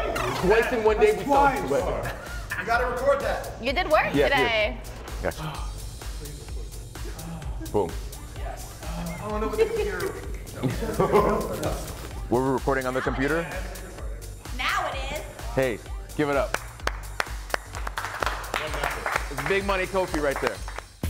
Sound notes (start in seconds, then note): 8.6 laugh; 16.4 applause